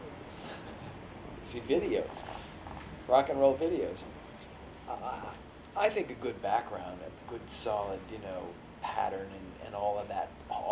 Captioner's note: laughs